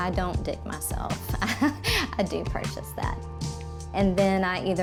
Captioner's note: chuckles